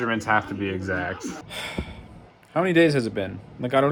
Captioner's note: sigh